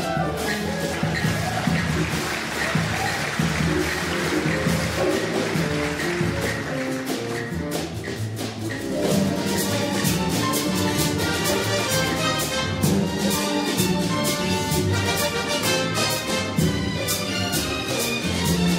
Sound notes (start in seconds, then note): 1.5 audience applauds; 5.1 orchestral jazzy music